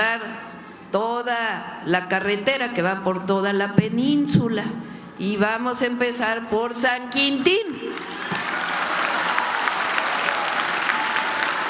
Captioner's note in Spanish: aplausos